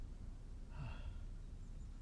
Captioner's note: sighs